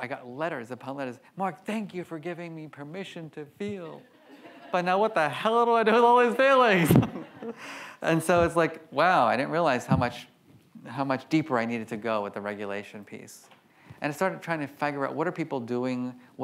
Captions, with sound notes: I got letters upon letters, "Marc, thank you for giving me permission to feel, but now what the hell do I do with all these feelings?" (laughs) And so it's like, wow. I didn't realize how much, how much deeper I needed to go with the regulation piece. And I started trying to figure out what are people doing?